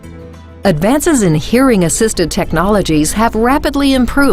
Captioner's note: voiceover